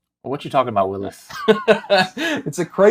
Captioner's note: laughing